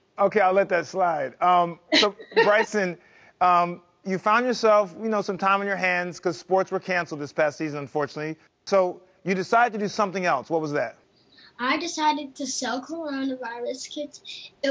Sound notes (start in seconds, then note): 1.9 mom laughs